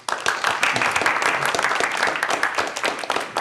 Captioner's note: applause